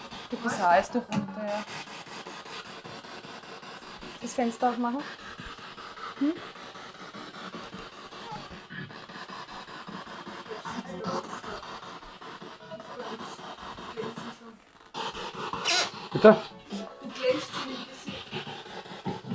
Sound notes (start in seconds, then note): 5.4 sound of the Spirit Box in the background